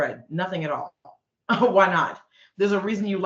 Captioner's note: chuckling